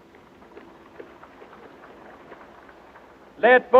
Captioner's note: audience cheering